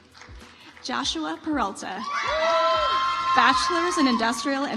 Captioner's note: audience applauds